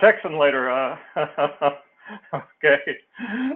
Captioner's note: laugh